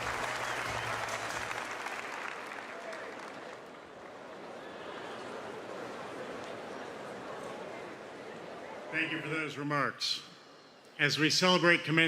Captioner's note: applause